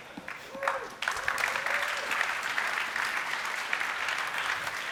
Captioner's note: applause